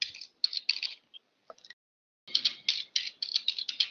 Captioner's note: typing